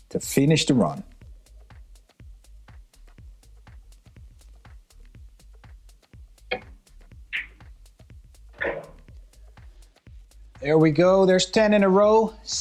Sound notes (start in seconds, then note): 7.0 balls clanging